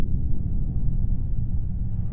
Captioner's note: none